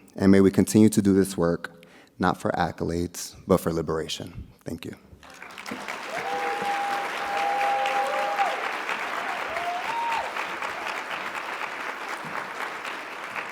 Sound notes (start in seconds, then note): 5.2 audience cheering and clapping